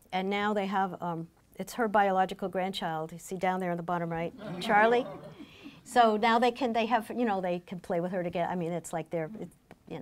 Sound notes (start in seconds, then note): 4.4 laughing